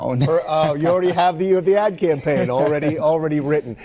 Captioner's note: laughs